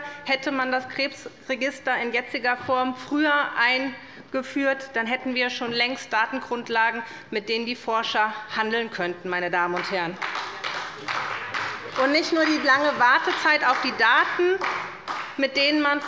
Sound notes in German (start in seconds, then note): 9.7 Beifall bei der SPD